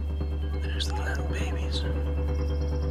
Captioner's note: whispers